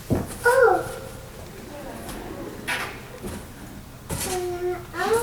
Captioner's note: laughing